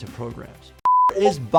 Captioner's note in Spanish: pitido de pantalla